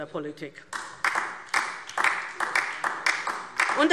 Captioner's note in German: Beifall DIE LINKE